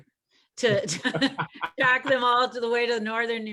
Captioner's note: laughs